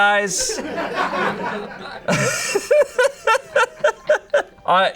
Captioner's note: audience laughing